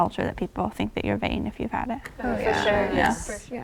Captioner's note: none